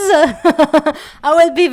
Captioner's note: laugh